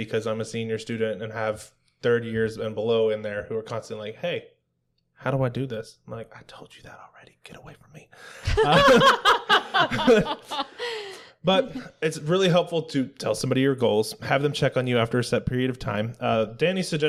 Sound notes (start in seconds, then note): 6.5 whispers; 8.4 laughter